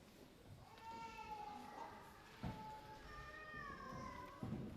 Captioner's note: babies crying